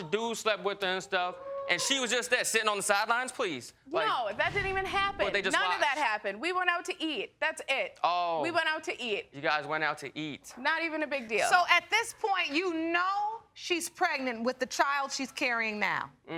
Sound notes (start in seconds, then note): 0.9 audience exclaiming; 9.6 sarcastically